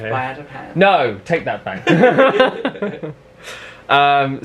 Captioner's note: laughs